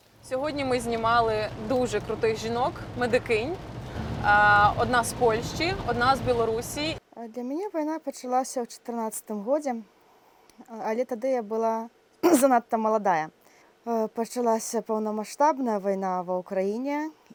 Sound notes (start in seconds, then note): 7.2 speaks Belorussian